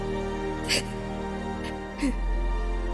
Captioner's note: crying